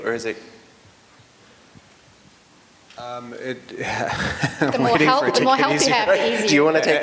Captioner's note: laughter